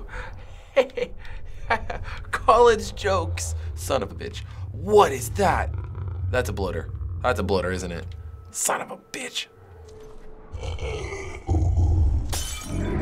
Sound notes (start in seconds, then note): 0.2 snickers sarcastically; 8.4 whispers; 10.3 bottle shatters; 10.5 Bloater growls; 12.7 Bloater snarls